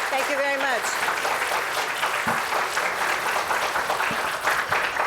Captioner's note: applause